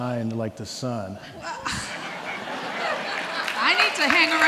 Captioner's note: gasps; audience laughing; audience clapping